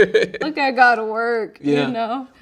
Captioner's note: laughing